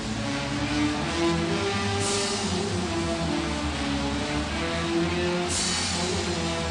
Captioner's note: applause and cheers